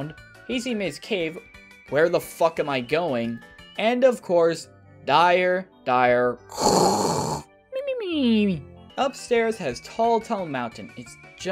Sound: snore

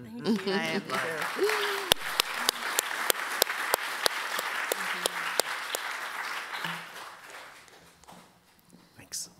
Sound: applause

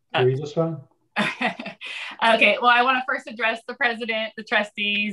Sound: laughs

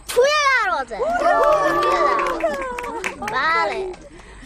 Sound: cheering, clapping

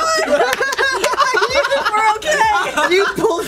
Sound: laughs

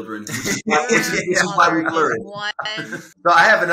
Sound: laughing

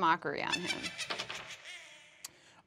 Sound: laughing

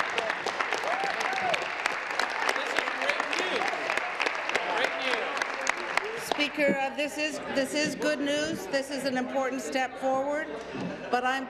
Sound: applause

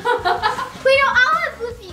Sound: laughs

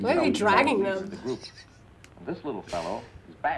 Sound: React laughs

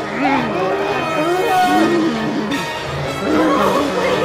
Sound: screaming and growling

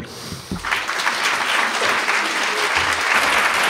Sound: applause

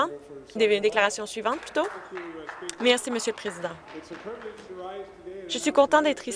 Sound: applause

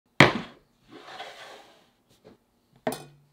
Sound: board sliding

